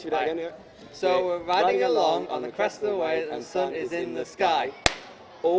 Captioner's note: clap